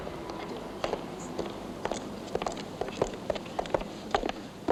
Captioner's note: soft chattering